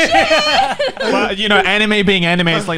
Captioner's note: laughing